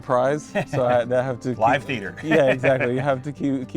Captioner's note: laughs